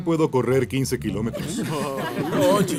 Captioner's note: risas